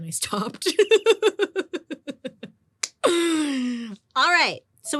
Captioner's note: laughing